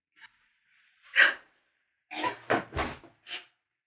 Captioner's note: Raven cries